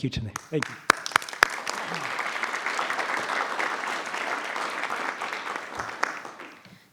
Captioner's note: applause